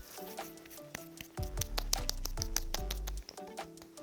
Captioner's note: pat-pat